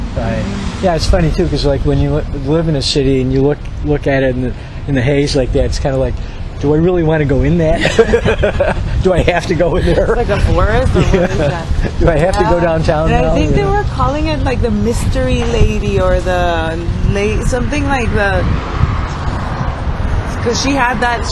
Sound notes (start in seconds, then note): 10.6 laughs